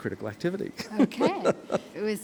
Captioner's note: laughs